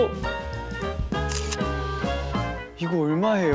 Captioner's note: click